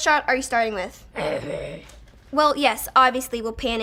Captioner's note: Frank growls